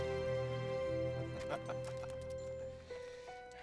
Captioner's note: laughs